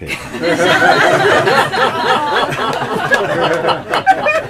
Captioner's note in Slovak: Smiech